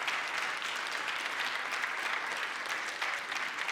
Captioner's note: applause